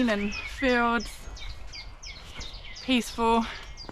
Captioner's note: birds chirping & sheep bahhhing